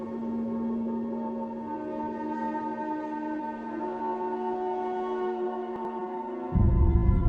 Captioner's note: wind blowing